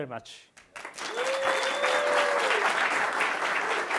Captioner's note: audience applauds